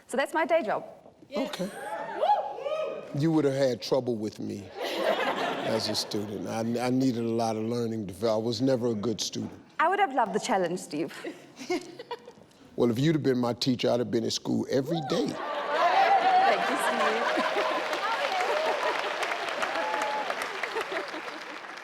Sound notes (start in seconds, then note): 1.8 audience cheers; 4.7 audience laughs; 15.0 audience cheering and laughing; 18.6 audience laughing